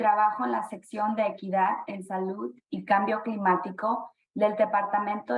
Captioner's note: speaking spanish